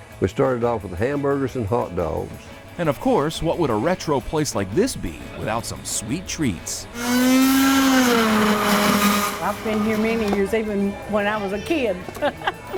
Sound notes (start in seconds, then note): 7.0 machine whirring; 12.0 chuckles